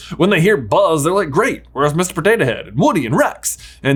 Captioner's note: none